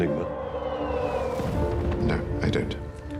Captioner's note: bomb exploding